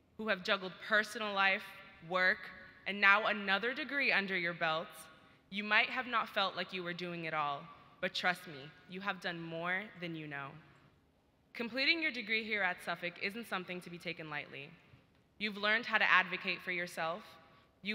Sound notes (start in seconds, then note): none